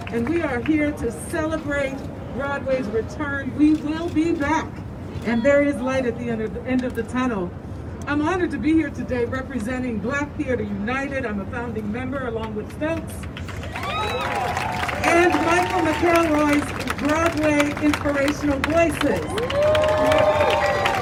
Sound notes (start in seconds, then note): 13.6 crowd cheering